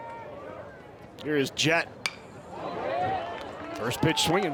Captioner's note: bat dings